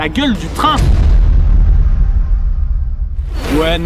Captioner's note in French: Bruitage BOOM